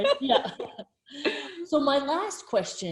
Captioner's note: both laughing